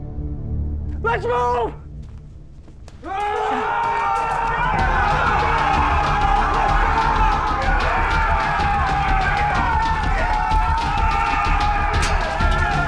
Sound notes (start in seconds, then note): 3.0 men yelling; 10.4 fighting, shovels clink